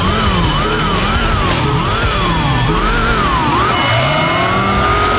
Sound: GT Beytah Countdown Sounds

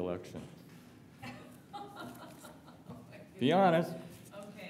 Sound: laughter

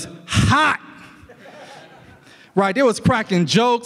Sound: audience laughs

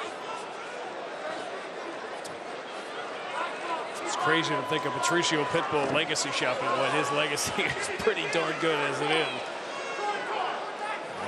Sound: laughter

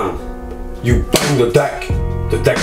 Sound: claps hands

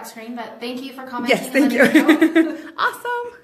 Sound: laughs

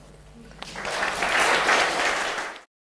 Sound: applause

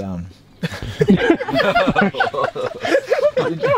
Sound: everyone laughs

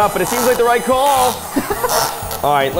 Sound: milkshake machine whirring

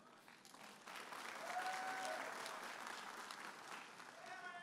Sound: audience applauding and cheering

